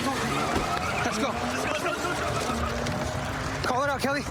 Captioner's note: shouting